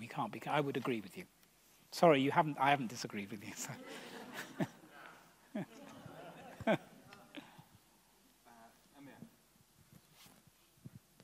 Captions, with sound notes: We can't be...I would agree with you. Sorry, I haven't disagree with you. [audience laughs]